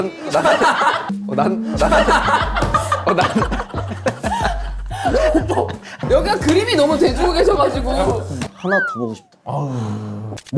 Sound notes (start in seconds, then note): 0.2 laughs; 1.8 burst out in laughter